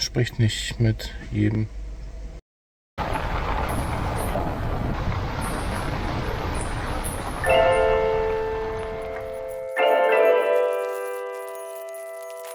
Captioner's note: speaking German